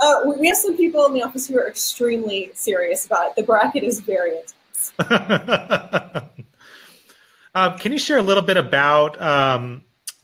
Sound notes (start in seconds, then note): 4.9 laughing